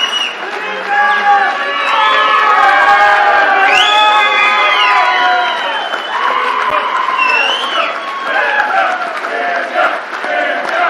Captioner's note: cheers and applause